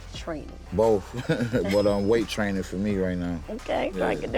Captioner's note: laughs